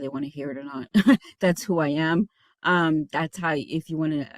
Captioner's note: chuckles